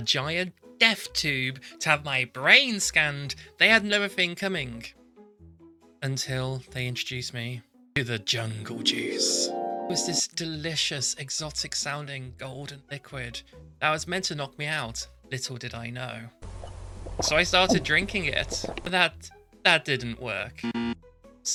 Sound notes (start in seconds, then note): 8.5 angelic noise; 17.2 glug glug